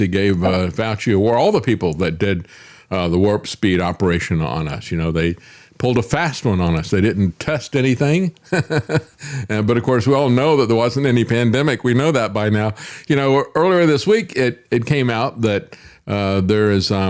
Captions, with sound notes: He gave Fauci award, all the people that did the warp speed operation on us. You know, they pulled a fast one on us. They didn't test anything. (Laughs) But of course, we all know that there wasn't any pandemic. We know that by now. You know, earlier this week, it came out that there is,